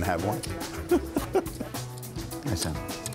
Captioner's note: chuckling